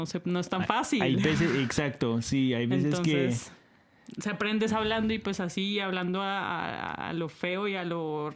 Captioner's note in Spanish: risas